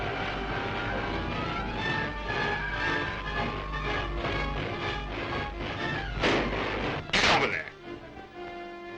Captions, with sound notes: (dramatic music) (gunshot fires) - Get over there.